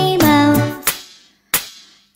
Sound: clap

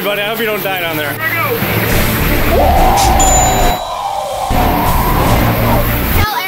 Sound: screams of excitement

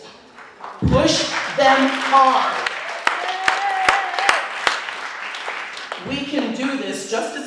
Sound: applause

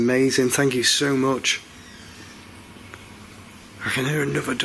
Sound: door squeaks

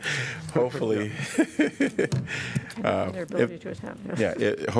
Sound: laughter

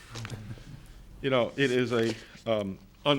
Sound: chuckling

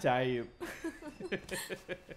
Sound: laughs

